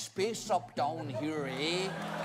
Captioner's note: accented